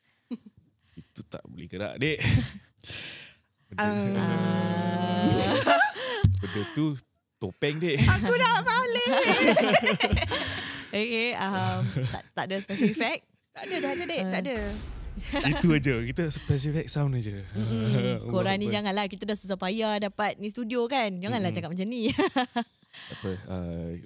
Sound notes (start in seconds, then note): 14.6 plays soundeffect